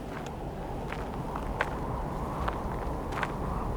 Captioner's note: wind howling